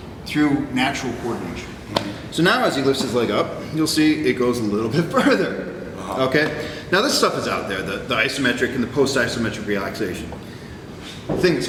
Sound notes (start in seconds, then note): 5.6 chuckle